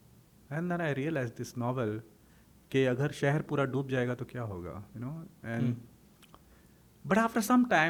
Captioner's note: hindi